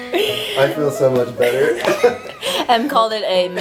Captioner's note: laughs